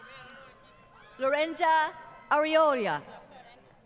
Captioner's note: crowd Cheering